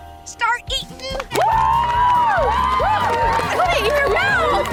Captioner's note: cheering